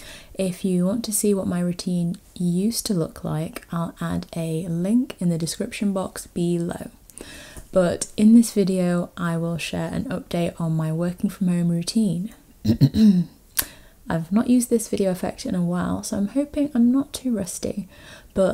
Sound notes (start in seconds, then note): 12.6 clears throat